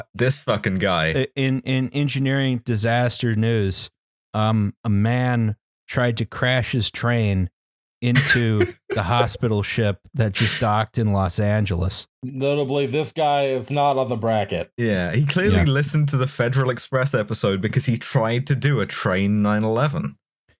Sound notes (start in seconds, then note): 8.1 leaks laughter